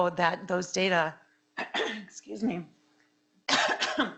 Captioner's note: coughing; clearing throat